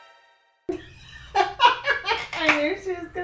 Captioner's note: laughing off camera